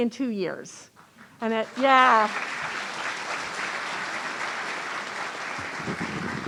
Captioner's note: audience applauding